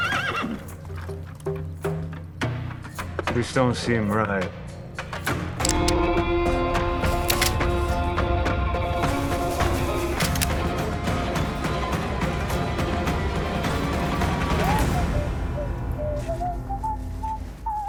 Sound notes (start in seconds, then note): 0.3 tense music; 5.2 cocks gun; 7.0 cocks rifle; 10.1 cocks rifle; 11.6 tense music